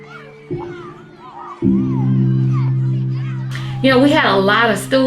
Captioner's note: children chattering